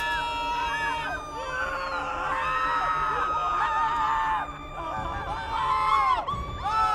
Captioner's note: people screaming; people continue screaming; dramatic music